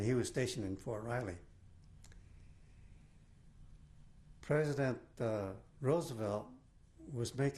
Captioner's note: pauses for 3 seconds